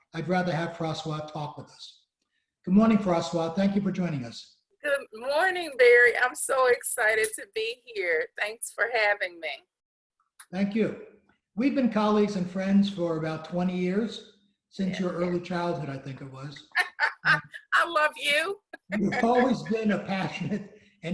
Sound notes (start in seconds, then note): 16.7 laughs